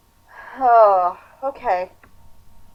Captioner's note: heavy sigh